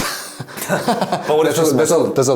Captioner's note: both laugh